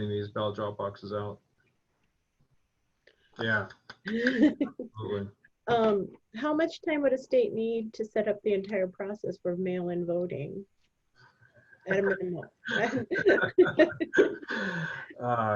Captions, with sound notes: in getting these ballot drop boxes out. (applauding) (laughing) - How much time would a state need to set up the entire process for mail-in voting? At a minimal. (laughing)